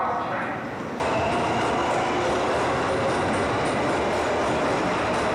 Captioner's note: train clattering